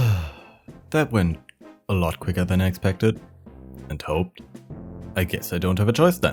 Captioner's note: sigh